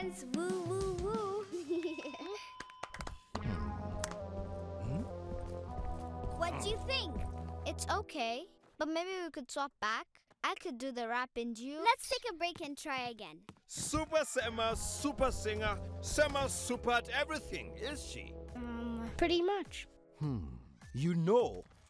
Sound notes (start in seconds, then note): 2.2 sparse clapping; 3.3 suspenseful music